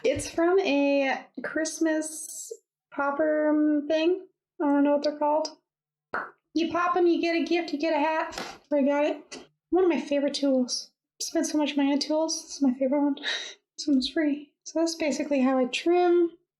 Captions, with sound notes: It's from a Christmas popper ermm-thing. I don't know what they're called, [POP!] You pop 'em you get a gift, you get a hat. That's where I got it. One of my favorite tools spend so much money on tools. This is my favorite one, this ones free. So that's basically how I trim.